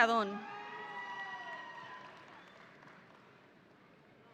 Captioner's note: audience cheering